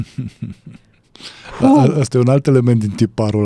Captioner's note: laughter